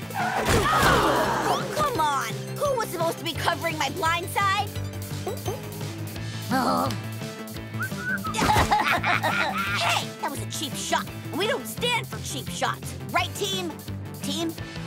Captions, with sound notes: [groaning] Oh, come on! Who was supposed to be covering my blindside?! Uh. [whistling, laughing] Hey, that was a cheap shot! We don't stand for cheap shots, right team? Team?